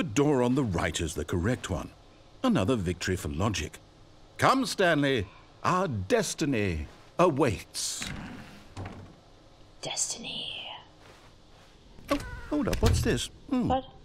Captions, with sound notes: [whispered] destiny [door closes] what